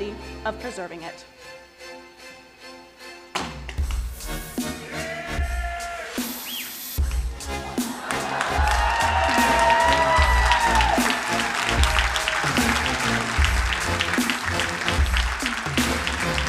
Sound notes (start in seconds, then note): 7.0 crowd cheering and applauding; 12.2 upbeat music